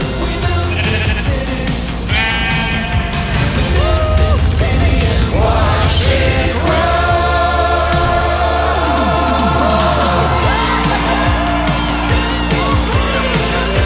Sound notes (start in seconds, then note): 2.3 sheep bah; 5.7 singing; 11.8 cheering